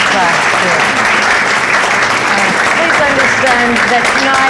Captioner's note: crowd applauds